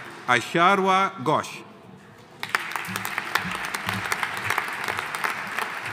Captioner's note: audience applauding